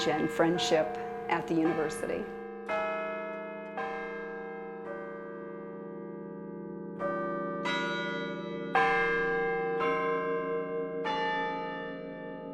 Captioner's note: bells ringing